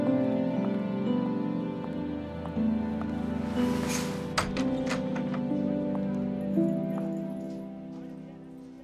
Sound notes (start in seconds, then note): 3.4 door opens